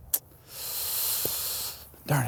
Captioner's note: sighs